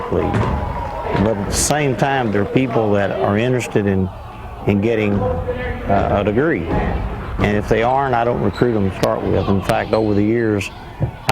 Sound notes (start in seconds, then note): 4.5 cheering